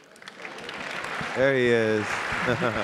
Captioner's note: audience clapping